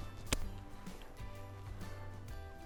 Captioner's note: upbeat music; bottle pops; upbeat music